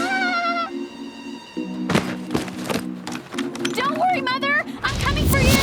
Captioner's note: giggle